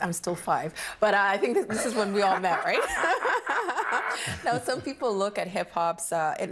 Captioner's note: laughs